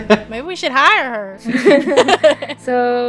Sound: laughter; laughter

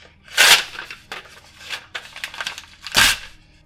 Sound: paper ripping

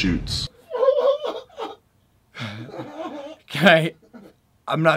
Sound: laughter ensues

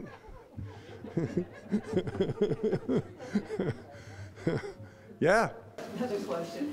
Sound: all chuckling

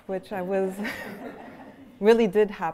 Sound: laughter

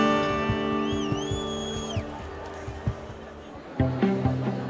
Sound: crowd cheering

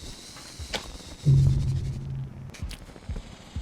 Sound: sound of death

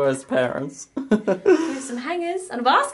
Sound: laughs

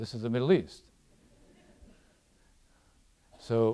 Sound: audience laughs

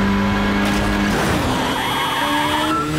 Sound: honking

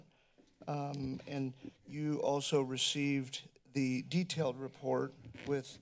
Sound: none

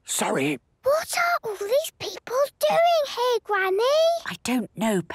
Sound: whispering; quietly

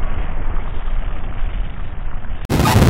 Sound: none

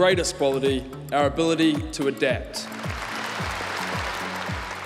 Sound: applause

